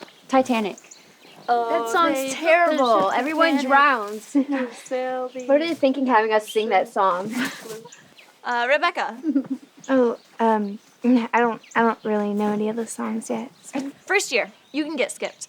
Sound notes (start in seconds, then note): 4.2 chuckles